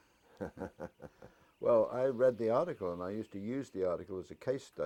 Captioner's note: laugh